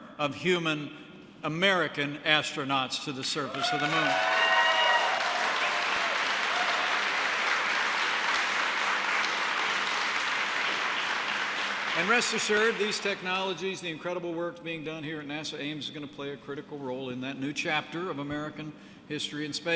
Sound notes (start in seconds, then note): 3.5 applause